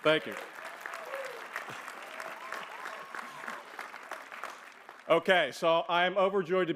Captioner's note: applause